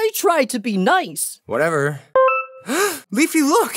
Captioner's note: gasps